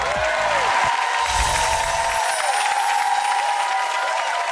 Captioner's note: audience cheers; chimes resonant